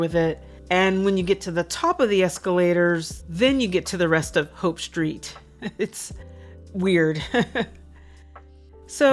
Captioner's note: chuckles